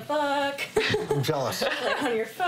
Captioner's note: chuckles